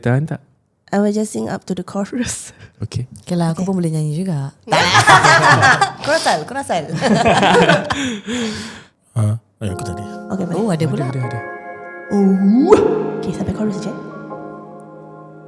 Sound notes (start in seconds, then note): 6.9 all burst laughing